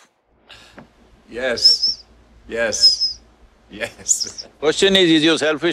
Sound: laughs

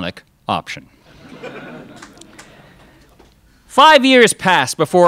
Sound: crowd laughs

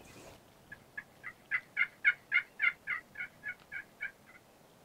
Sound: turkey yelping

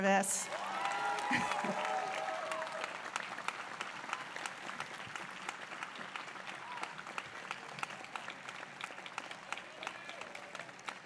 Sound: applause

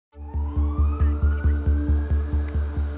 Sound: sirens blaring

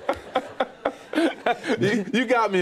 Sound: laughter

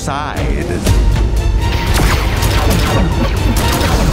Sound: blasters firing

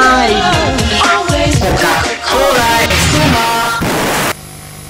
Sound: explosion

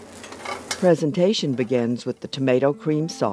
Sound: voiceover

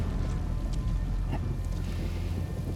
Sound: laugh

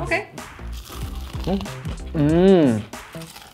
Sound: chicken crunches

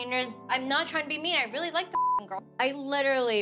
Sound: beep

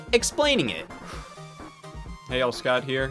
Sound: sigh

